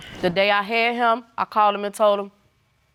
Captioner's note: none